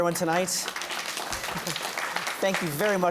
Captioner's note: applause